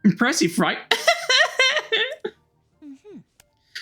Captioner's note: mocking Laughter